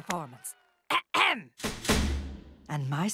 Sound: clears throat

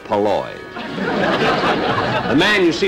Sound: audience Laughing

